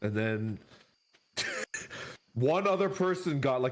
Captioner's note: chuckles